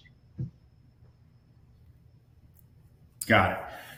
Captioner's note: object thudding